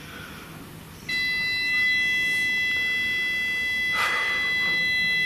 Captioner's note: machine beeping